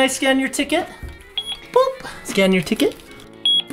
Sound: scanner beeping

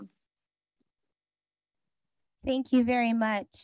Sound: silence

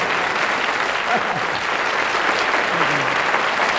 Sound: laughs

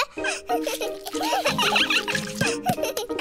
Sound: giggles; all giggling

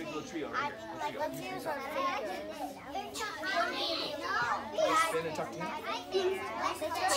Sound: children talking to each other

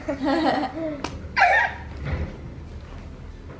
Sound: laughs

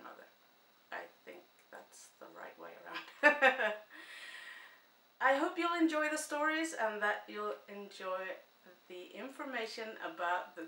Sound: chuckle

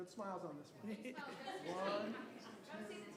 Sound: people chattering

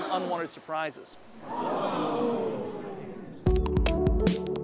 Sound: machine whirr; upbeat music

